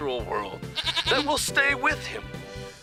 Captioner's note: bleats